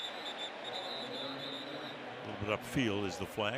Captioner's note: whistle